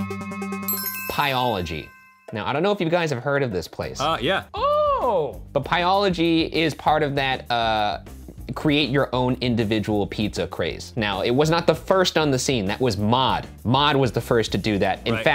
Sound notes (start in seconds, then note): 0.6 ding